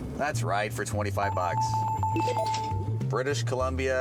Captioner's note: bells